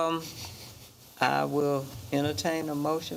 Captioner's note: microphone scraping